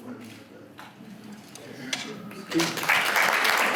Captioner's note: applause